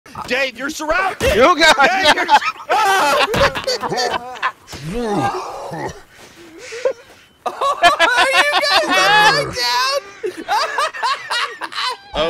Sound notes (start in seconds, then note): 1.3 laughter; 2.7 screaming; 9.9 laughter